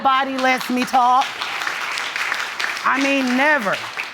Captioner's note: audience applauds